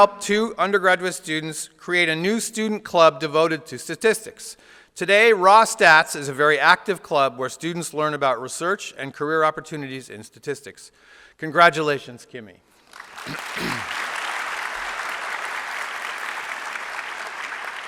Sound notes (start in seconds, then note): 12.8 applause